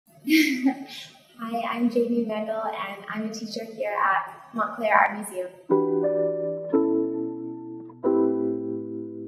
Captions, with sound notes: - (chuckles) Hi, I'm Jamie Wandel, and I'm a teacher here at Montclair Art Museum. (mellow music)